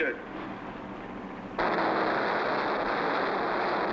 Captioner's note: engines rumbling